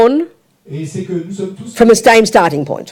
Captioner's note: speaking in French